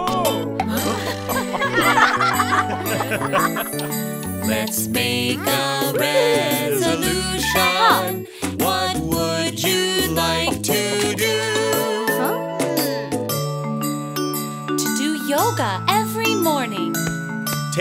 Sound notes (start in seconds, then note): 0.7 laughing